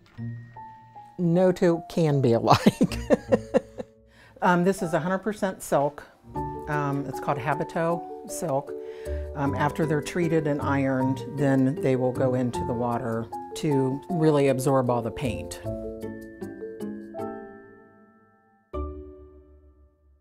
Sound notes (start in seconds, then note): 2.5 laughter